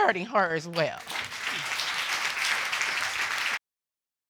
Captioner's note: audience applauding